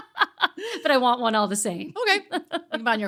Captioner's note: laughing